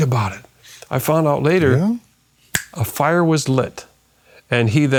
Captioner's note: snaps finger